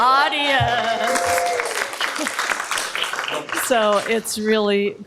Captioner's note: applause